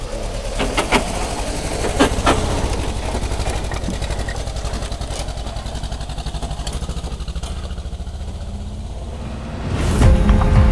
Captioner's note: car driving through